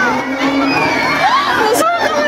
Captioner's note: A pterosaur screech rings out